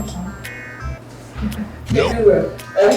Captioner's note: laughing